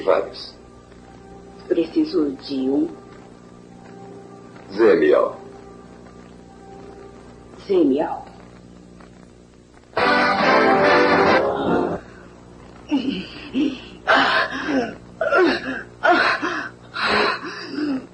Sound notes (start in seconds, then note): 13.0 moaning